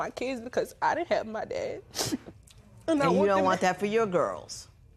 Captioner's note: sniffles